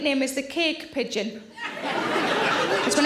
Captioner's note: audience laughing